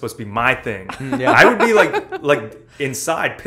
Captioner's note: laughter